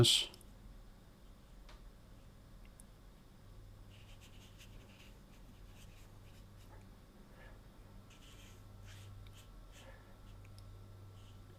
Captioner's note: silence